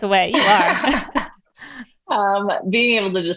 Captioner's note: chuckles